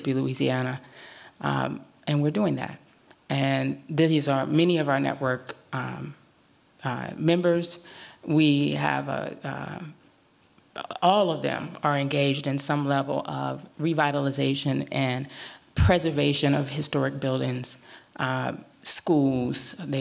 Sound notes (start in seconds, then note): none